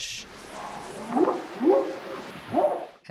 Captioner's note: whooping sound